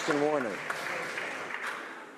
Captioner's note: some Applause